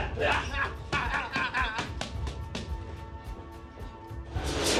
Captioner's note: grunting